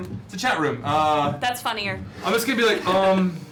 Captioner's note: laughs